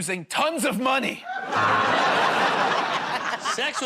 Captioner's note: laughter, buzzer